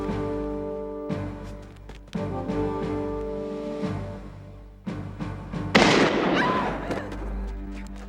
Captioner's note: gunshot firing; screaming